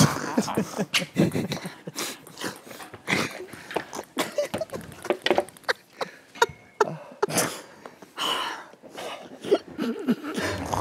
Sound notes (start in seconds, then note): 4.2 can't help but laugh; 6.6 sigh; 6.8 huff of laughter; 8.1 deep sigh